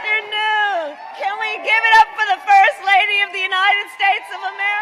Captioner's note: applause